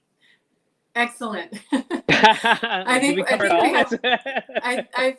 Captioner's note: both laugh